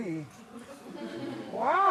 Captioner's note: laughter